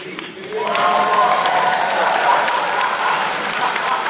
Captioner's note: applause; laughter